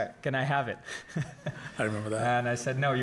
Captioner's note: chuckles